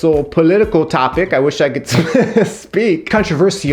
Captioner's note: laughs